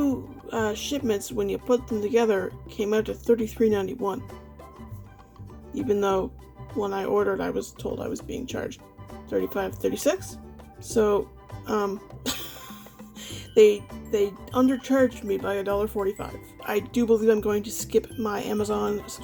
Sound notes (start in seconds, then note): 12.3 laughs